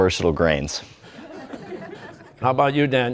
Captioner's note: laughter